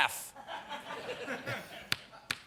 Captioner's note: laughter